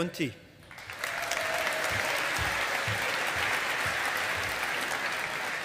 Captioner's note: audience applauding